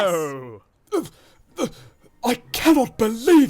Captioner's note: henry splutters